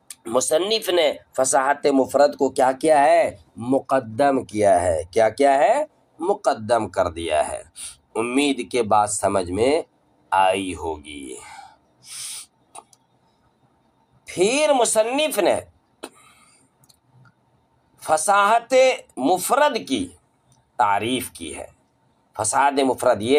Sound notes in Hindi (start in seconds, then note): 12.0 गहरी सांस लेने की आवाज़; 12.0 अचानक ज़ोर से सांस लेने की आवाज़; 12.7 नाक से की जाने वाली आवाज़